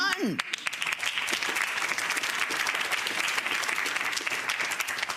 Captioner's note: audience applauds